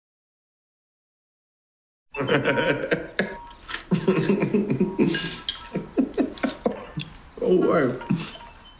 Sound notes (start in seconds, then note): 2.1 laughing as cartoon type music plays in the background; 7.8 laughing